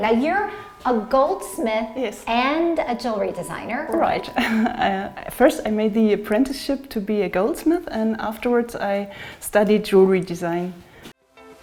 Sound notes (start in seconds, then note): 4.3 chuckles